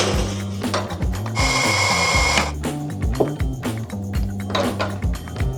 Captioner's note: coffee machine whirring; upbeat funky music